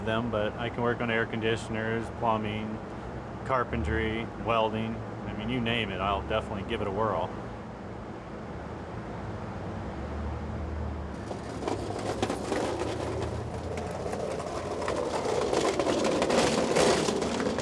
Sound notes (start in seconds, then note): 13.1 cart rolling on bricks